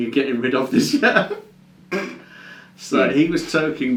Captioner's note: laughs